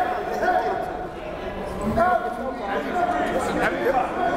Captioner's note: crowd murmuring